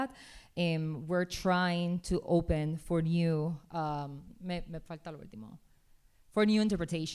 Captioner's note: speaking spanish